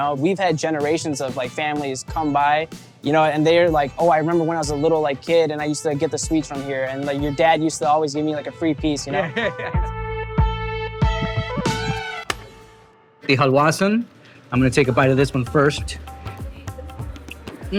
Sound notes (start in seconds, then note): 9.0 laughs; 12.2 clapperboard clicks